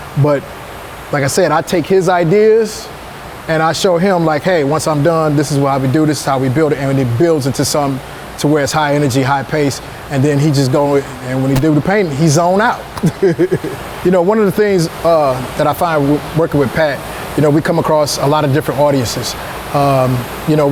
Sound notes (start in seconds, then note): 13.0 laughing